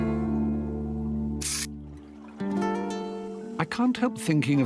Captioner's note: camera flashing